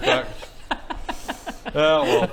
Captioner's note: really unfair giggles